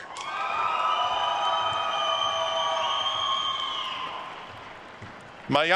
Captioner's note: attendees cheering and applauding